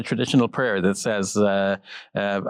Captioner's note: speaks in foreign language